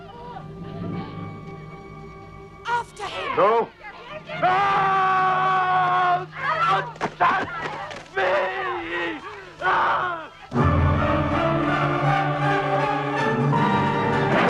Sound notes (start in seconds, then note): 4.4 Nepakin screams; 9.7 all yelling; 10.5 intense operatic music